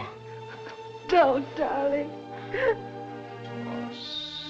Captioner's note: sobs